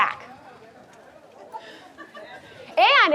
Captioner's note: audience chattering